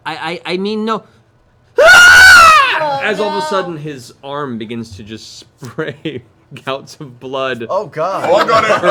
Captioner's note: screams